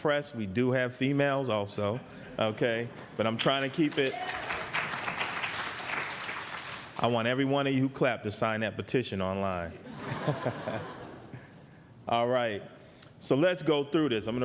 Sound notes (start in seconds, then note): 3.5 applause; 9.8 laughter